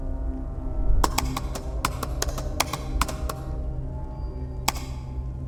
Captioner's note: keyboard clicking sound